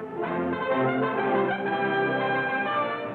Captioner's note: none